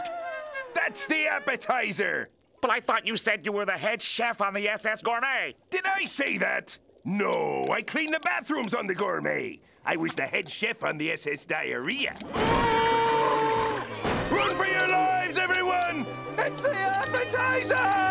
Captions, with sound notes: That's the appetizer. But I thought you said you were the head chef on the SS Gourmet. Did I say that? No, I cleaned the bathrooms on the Gourmet. I was the head chef on the SS Diarrhea. [screaming] Run for your lives, everyone! It's the appetizer!